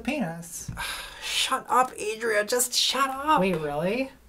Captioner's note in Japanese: 激怒したため息